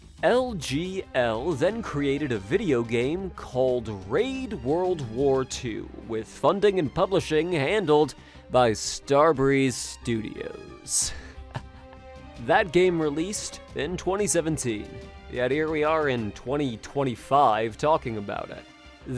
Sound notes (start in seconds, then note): 11.0 low laugh